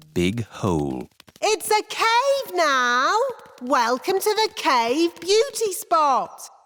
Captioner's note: echoing